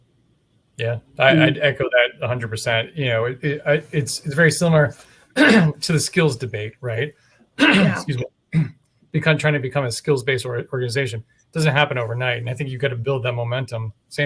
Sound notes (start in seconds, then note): 7.6 throat clearing